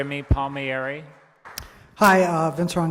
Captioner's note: applause